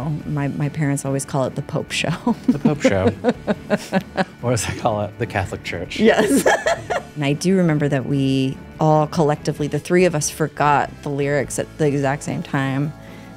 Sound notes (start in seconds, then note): 2.3 laughs; 6.3 cackles